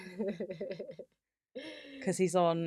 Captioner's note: laughs